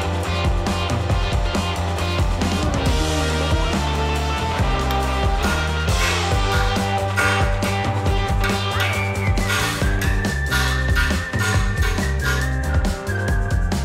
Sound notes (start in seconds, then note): 5.9 metal banging